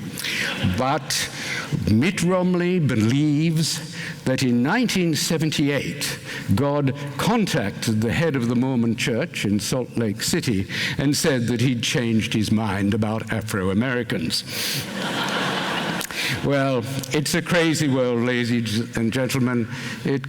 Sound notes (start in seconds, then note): 14.8 laughter